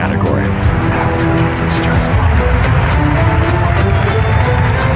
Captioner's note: whispering; cheering and applause; dramatic music